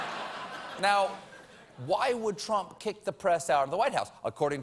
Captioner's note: laughter